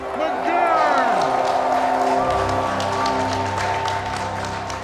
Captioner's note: crowd cheering